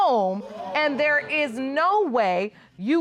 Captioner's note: audience exclaiming